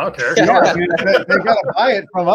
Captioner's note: all laugh